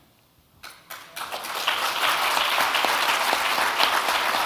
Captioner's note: audience clapping